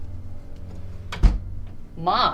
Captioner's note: door thuds